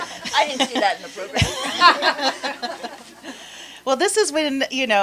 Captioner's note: laughter